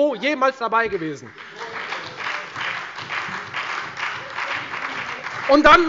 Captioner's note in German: Beifall bei der FDP und der SPD